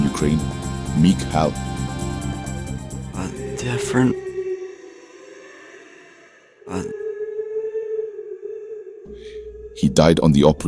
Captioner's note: Background voice yelling “Gene”